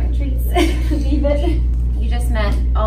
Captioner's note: laughs